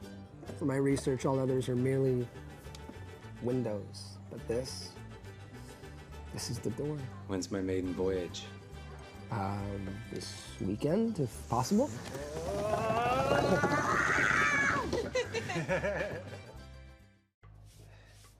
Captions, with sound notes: - For my research all others are merely windows, but this, this is the door. - When's my maiden voyage? - This weekend if possible. (all drum on table) (all laughing)